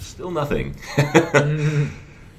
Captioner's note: laughs